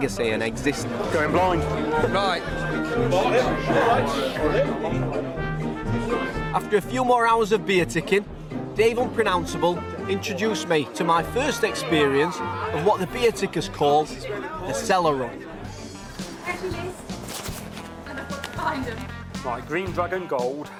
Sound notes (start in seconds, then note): 3.0 background chattering; 3.0 bright music